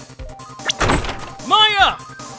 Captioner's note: door flung open!